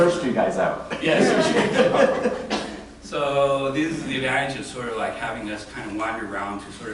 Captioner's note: laughter